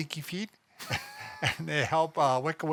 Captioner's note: both laughing